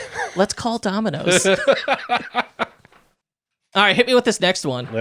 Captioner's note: laughing